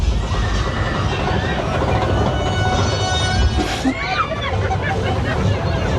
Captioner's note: people shouting and laughing